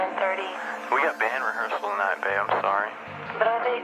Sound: on phone; on phone

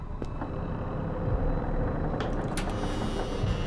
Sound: door creaking

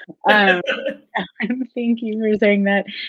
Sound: laughing

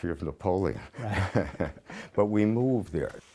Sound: laughter

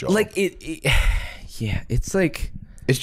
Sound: sighs

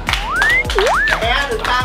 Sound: applauding

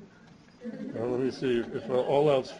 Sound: laughter

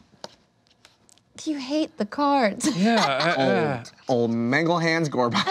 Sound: laughs

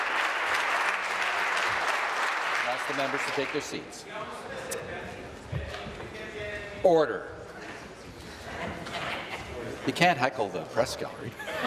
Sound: applause

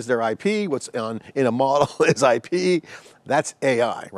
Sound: chuckles

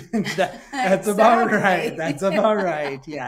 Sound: laughing

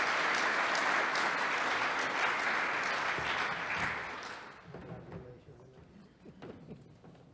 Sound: applause

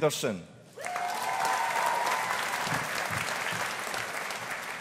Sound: audience applauding

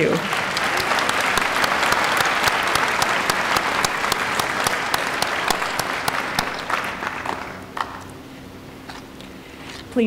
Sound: applause

